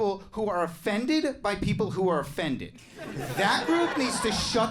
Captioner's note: audience laughs